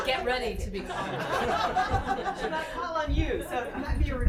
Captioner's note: laughing